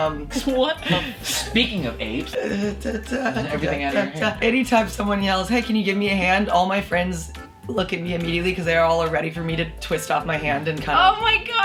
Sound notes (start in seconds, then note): 2.3 hums